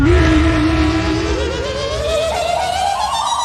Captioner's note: roars; trilling